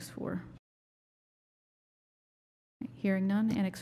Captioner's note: silence